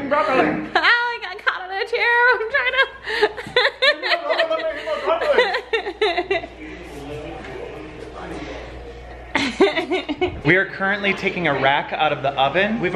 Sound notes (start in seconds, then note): 2.2 laughs